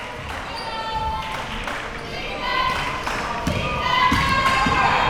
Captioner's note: crowd chanting